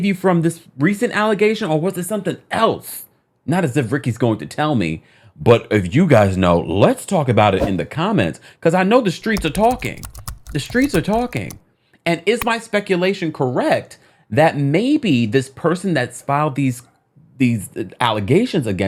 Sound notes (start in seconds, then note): 7.6 air whooshing; 9.2 keyboard clicking